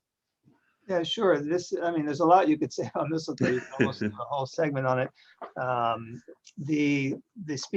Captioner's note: chuckle